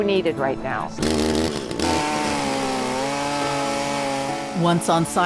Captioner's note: chainsaws whirring